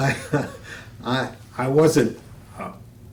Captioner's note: laughter